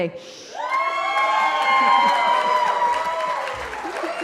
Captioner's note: cheering